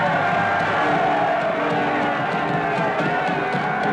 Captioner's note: cheering